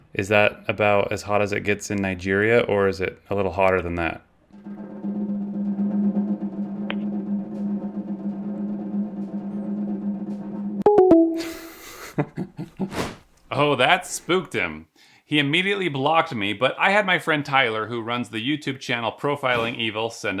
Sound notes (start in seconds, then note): 4.6 drum roll plays; 10.8 phone chimes; 11.5 laughs